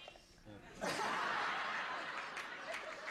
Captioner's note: laughter